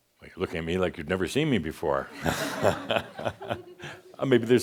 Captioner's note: some chuckles